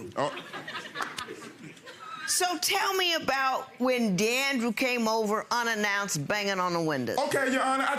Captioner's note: audience laughing